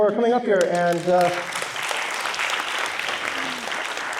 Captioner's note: applause